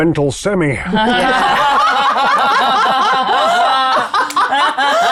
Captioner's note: everyone laughs